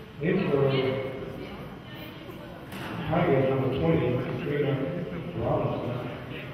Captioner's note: murmurs